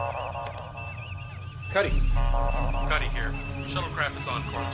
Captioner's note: click; comm voice